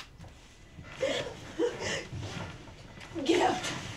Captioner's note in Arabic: يلهث